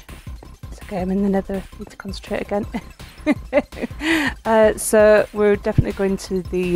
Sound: laughing

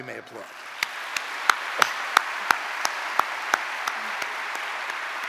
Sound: audience applauding

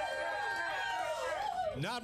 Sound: audience cheering

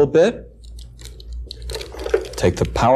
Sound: plastic rubbing

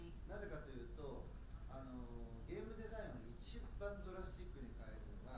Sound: speaking in foreign language

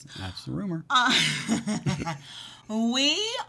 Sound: laughs

